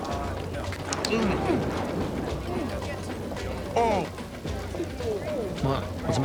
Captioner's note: groans